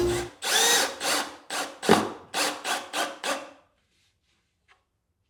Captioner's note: driller whirring